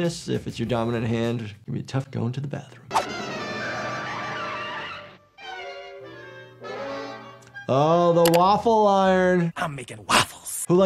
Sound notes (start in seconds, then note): 2.9 dramatic music; 2.9 screeching